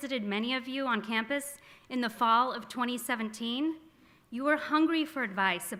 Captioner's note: none